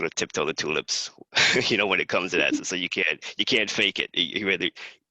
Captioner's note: laugh